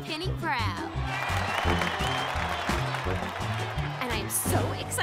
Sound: cheers and applause

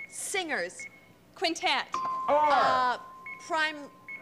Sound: ding

